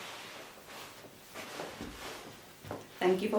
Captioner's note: clothing rustles